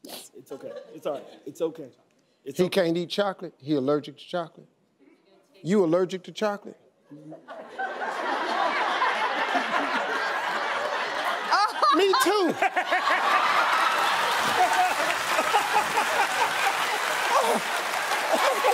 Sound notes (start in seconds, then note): 7.2 audience laughing; 13.0 all laughing; 15.3 audience applauding